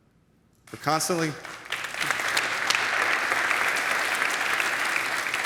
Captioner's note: audience applauds